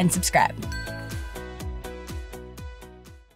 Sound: bell rings

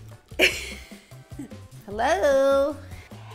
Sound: laughs

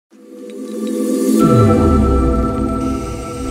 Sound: resonating sound

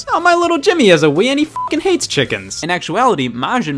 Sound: beep

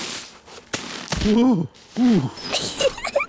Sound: groans; giggles

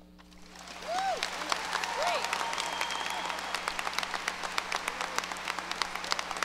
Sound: audience cheers and applause

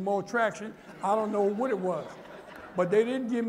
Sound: laughter

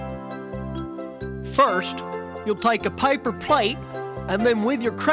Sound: voiceover

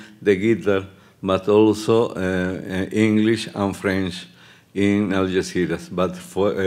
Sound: speaking Spanish

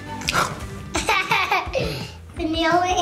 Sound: laughs

